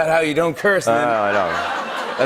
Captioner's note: laughter